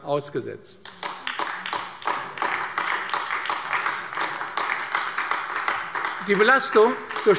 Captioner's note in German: Beifall AfD